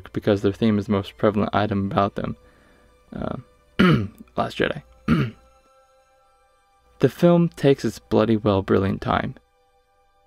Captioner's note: clears throat